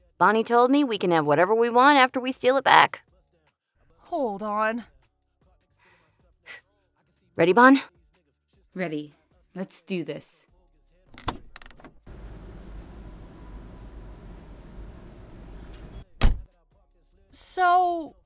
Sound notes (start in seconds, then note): 6.5 short exhale; 11.1 single car door opens; 11.9 wind gently blows; 16.0 door closes